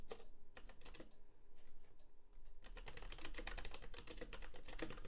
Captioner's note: keyboard clacking